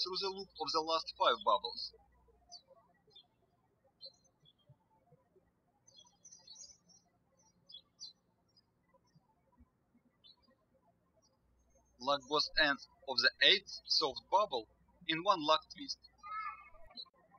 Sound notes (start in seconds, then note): 2.8 birds chirping; 17.1 birds chirping